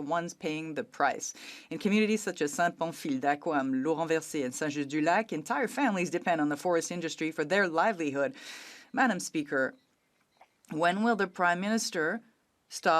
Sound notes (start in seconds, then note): 5.7 speaking French